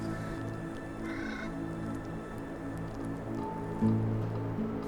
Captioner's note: bird squawks